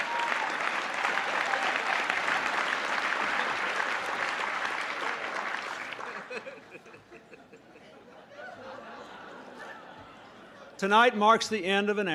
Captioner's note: applause; laughter